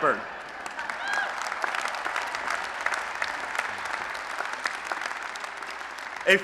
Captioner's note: applause